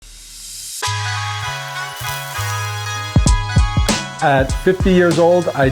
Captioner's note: meat sizzling; cheerful music